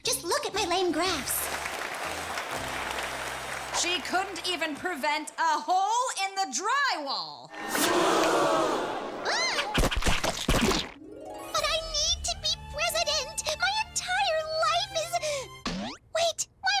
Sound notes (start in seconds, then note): 1.1 audience applauds; 7.5 audience gasps in shock; 9.8 tomatoes splat